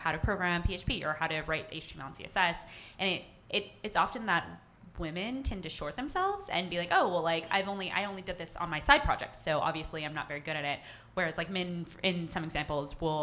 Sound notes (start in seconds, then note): none